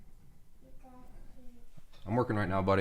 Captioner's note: child talking